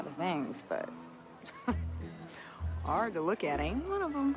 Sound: chuckles

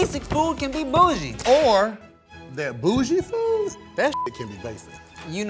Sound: beep

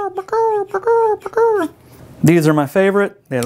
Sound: makes really stupid pelican sound

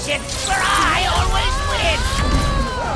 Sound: bewailing

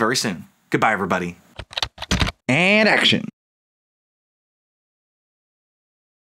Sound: typing

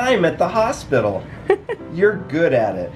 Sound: giggling

